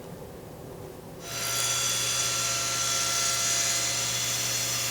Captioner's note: equipment whirring